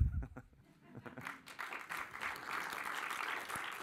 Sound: applause

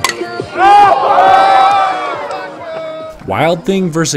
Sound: cheers

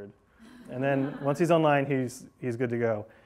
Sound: class laughing

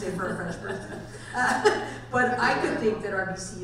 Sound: laughing

